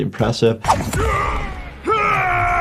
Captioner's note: dramatic music; Omni-Man grunts; Omni-Man screaming